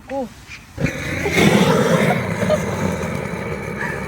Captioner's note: startled